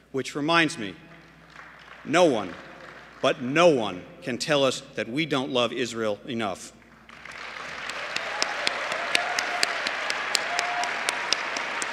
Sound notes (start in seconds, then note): 6.8 applause